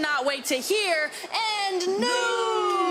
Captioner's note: laughs